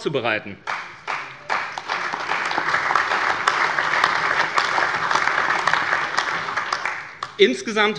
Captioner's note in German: Allgemeiner Beifall